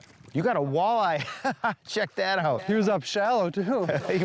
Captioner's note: laughs